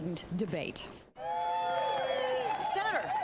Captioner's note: crowd cheering